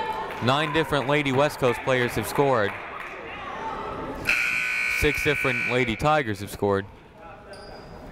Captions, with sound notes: Nine different Lady West Coast players have scored. (buzzer ringing) Six different Lady Tigers have scored.